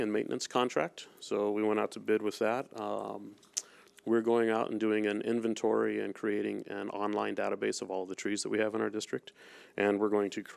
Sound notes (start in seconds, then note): none